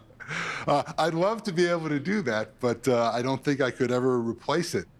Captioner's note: laughter